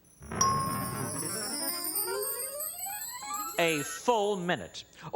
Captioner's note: ringing